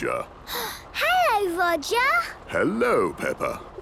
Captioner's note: gasps